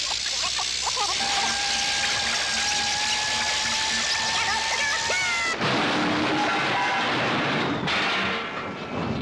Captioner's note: applause